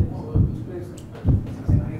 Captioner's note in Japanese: 効果音 ドックン・ドックン・ドックン・ドックン・ドックン・ドックン・ドックン・ドックン・ドックン・ドックン・ドックン・ドックン・ドックン